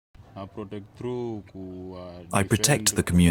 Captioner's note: speaking in non-English